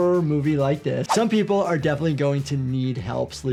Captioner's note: soft upbeat music plays; audio whooshes